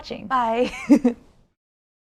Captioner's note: laughs